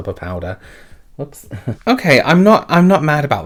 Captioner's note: chuckles